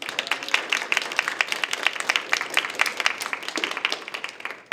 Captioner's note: attendees applaud